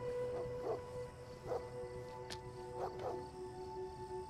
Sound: distant dog barking

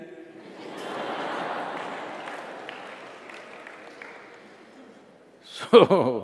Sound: laughter/Applause

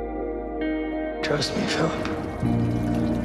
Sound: voiceover

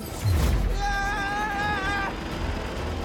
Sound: scream

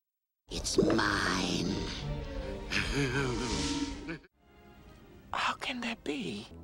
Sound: laughs manically

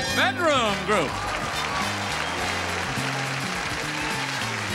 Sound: audience cheers loudly

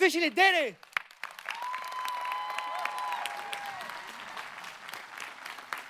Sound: audience applauding

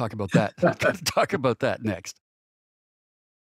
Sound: laughter

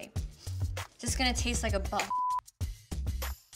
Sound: beep

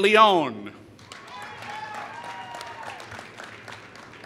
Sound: applause

